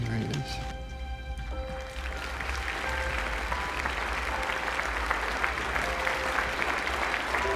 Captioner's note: applause